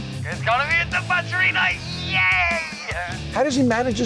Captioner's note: yelling